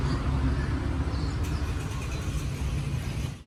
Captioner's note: a car engine start loudly